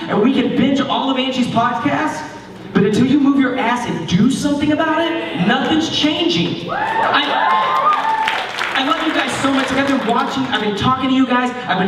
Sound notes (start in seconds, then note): 6.6 cheering